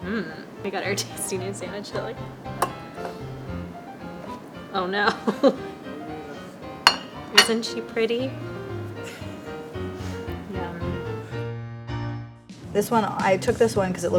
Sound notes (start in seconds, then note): 5.0 laughs; 8.3 old-time piano music